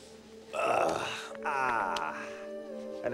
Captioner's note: groans